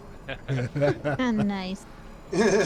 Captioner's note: laughing